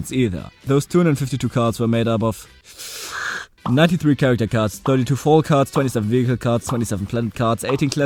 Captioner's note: deep breath